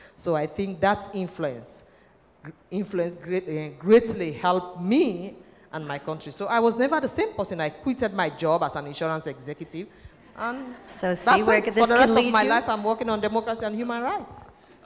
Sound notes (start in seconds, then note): 10.2 laughter